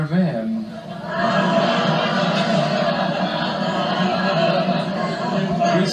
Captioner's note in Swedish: Publiken skrattar på 70-talets vis